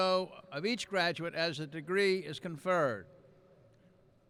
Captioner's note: none